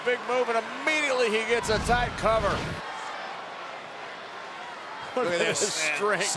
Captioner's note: graphics whooshing